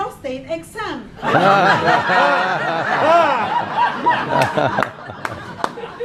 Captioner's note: laughing